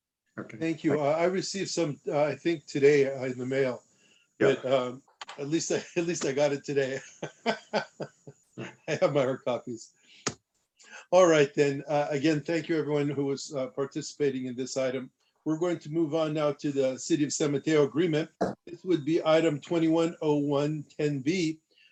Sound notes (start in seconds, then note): 6.9 laughter